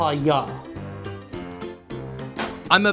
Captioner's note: package falls